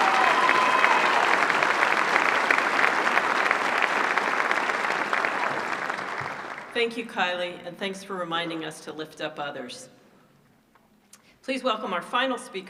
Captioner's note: applause